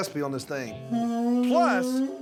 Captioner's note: horn sound